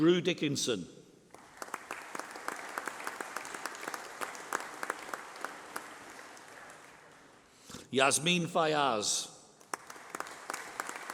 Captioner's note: applause